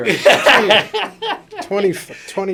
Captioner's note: laughter